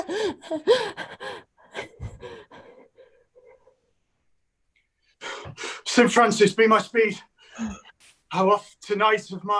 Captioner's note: panting